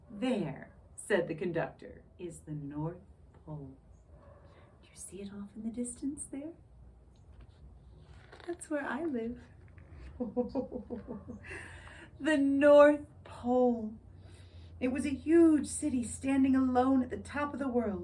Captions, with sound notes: "There," said the conductor, "is the North Pole." Do you see it off in the distance, there? That's where I live! [ho-ho-ho chuckles] The North Pole!